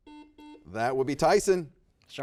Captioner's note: buzzer dings